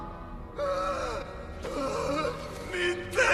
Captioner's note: cries